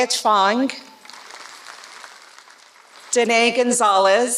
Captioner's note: applause